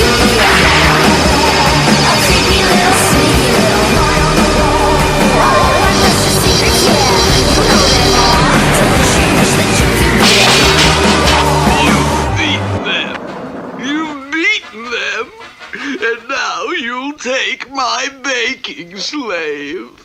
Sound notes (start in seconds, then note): 10.2 crash!